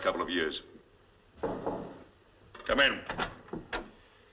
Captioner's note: Knocking